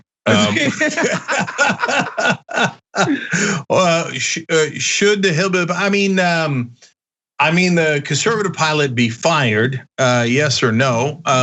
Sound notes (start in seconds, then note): 3.2 laugh